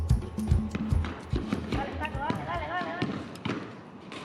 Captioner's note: baloncesto rebotando